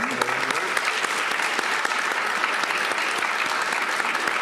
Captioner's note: applause